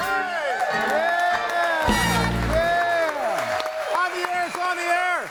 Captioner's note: audience cheering